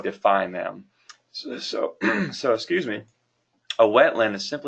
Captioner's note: clears throat